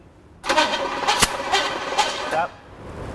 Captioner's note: engine cranking